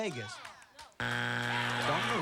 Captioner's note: buzzer